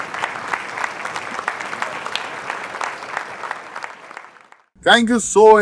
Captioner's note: crowd applauding